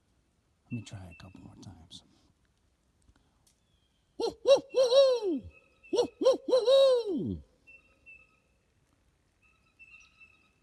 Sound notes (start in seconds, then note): 4.3 hooting; 7.5 blue jays calling